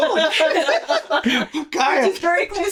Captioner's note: laughter